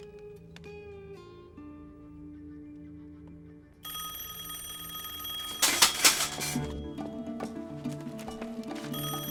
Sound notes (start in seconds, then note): 3.8 telephone rings